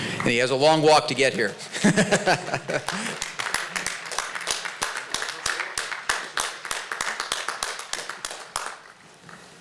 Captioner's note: laughter and applause